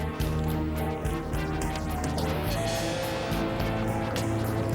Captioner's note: car engine rumbling